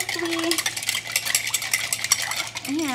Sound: ice clattering

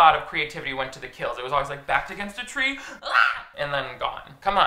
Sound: screams

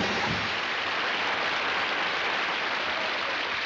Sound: applause

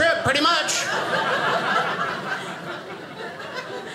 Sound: audience laughing

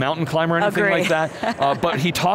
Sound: laughs

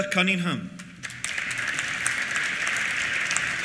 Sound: applause

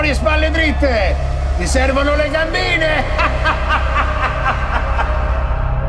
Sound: laughs

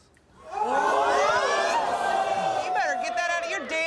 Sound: audience gasps and boos

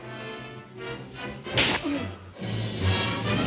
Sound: dramatic music; whip slapping; dramatic music

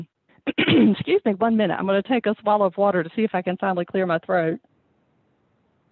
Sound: clears throat

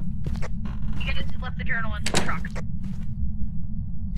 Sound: over Radio

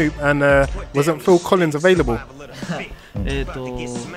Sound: laughter

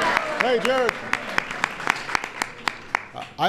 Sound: applause

